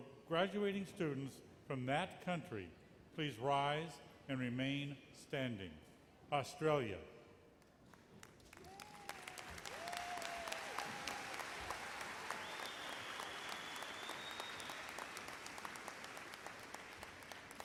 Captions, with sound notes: will the graduating students from that country, please rise, and remain standing. Australia. (applause)